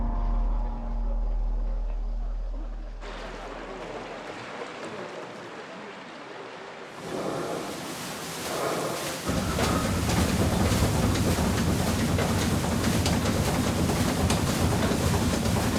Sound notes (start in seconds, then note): 9.2 water splashing; 9.2 engine rumbling